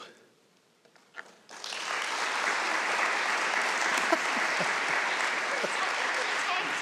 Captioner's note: applause